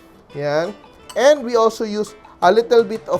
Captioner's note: clang